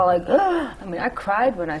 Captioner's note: gasp